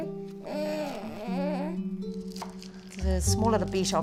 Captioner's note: baby noises